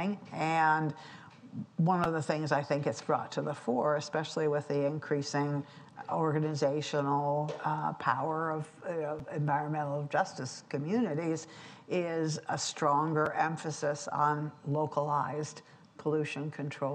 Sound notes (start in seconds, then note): none